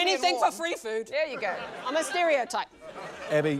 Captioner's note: laughter